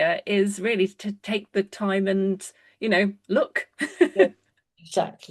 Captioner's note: laughs